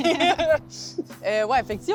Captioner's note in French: rires